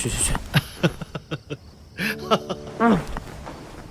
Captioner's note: laughs